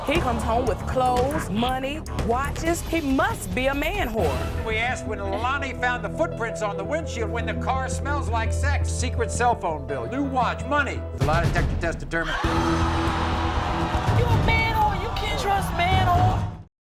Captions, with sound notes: - He comes home with clothes, money, watches, he must be a man-whore. - We asked when Lalonie found footprints on the windshield, when the car smells like sex, secret cell phone bill, new watch, money. The lie detector test determined-- (audience oohs) - You a man-whore, you can't trust man-whores.